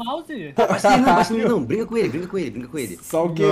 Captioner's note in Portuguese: risos